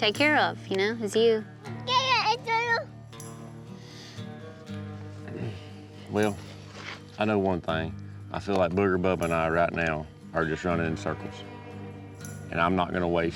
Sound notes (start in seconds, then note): 2.6 babbling